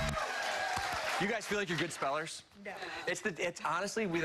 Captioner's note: cheers and applause